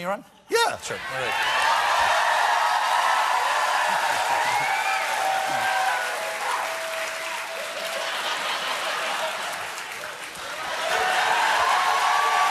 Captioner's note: cheers and applause